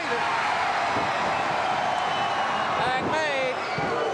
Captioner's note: crowd cheering